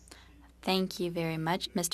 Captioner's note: speaking French